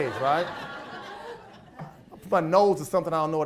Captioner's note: audience laughs